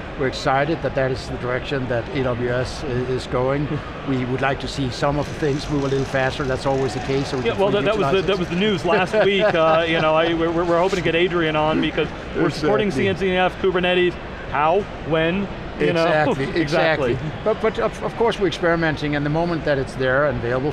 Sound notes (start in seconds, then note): 15.9 laughs